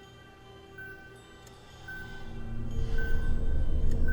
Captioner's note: monitor beeping